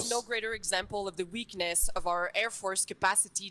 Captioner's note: speaking french